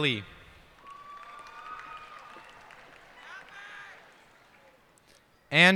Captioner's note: cheers and applause